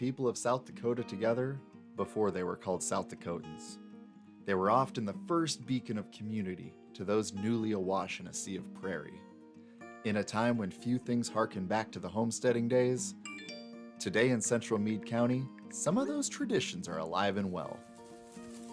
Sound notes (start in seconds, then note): 13.2 phone rings